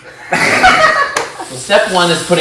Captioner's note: laughter